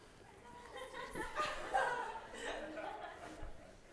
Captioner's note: laughter